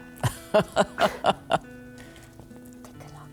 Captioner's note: laughs